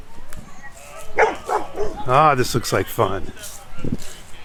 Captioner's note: dog barking